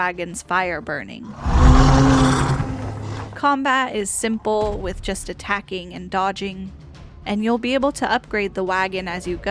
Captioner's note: beast roars